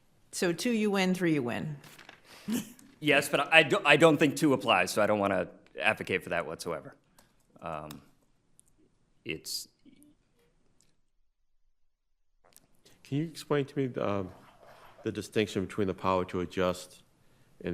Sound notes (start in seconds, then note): 2.2 laughing